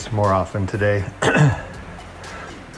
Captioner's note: clears throat